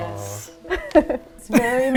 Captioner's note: laughing